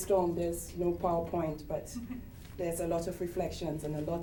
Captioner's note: chuckles